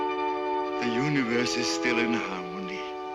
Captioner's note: gulls cawing